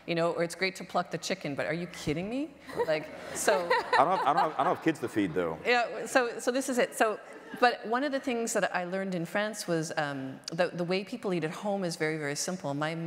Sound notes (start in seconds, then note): 3.2 audience laughter